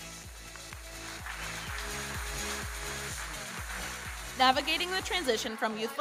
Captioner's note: audience applauding